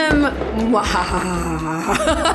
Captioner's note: evil laugh